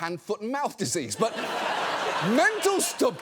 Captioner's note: studio audience laughing